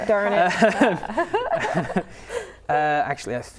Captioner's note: laughing